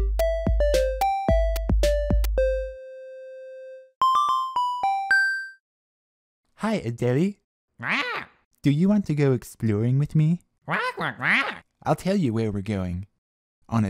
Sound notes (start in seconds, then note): 7.8 acknowledging squawks; 10.6 inquisitive squawks